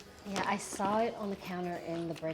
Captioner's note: none